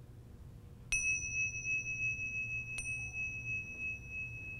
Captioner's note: bell rings